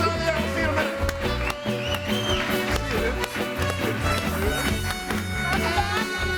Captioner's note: audience cheers